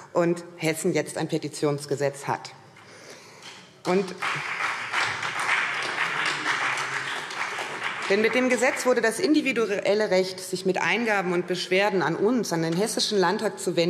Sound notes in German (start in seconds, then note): 3.8 Beifall SPD und vereinzelt CDU